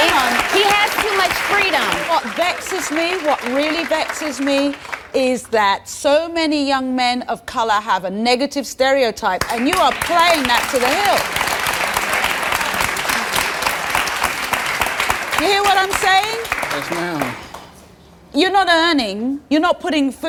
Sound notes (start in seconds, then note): 12.2 audience applauding